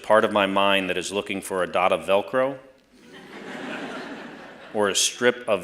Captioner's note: laughter